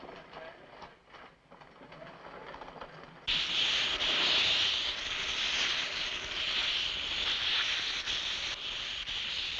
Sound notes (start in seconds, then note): 3.3 hissing